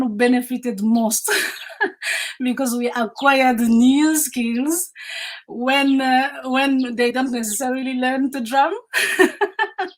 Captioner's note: laughs